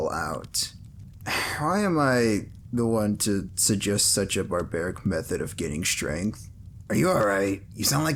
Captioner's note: sigh